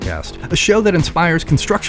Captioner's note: laugh